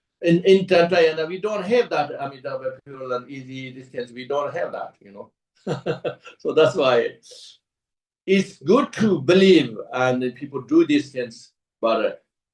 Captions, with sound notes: In Tantrayana we don't have that Amitabha Pure Land easily these things. We don't have that. [Laughs] So that's why. It's good to believe and people do these things but